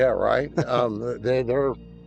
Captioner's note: laughter